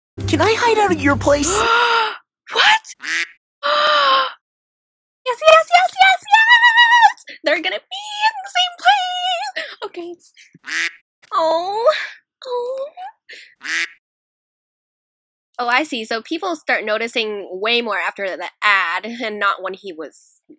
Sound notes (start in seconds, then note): 1.6 le deep gasp; 3.0 quack; 3.7 gassp; 10.6 quack; 13.6 quack